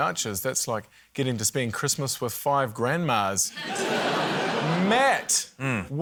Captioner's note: laughter